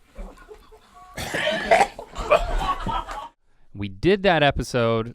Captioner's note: gags; crew laughs